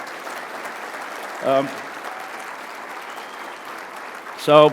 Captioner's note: applause